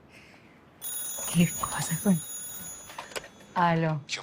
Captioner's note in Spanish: Suena el teléfono